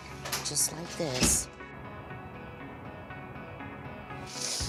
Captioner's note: door squeaks